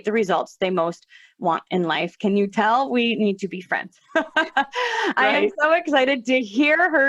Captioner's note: laughter